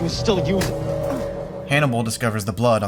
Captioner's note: smack!